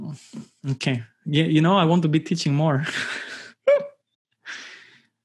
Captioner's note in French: rires